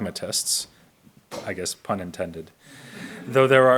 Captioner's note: audience laughs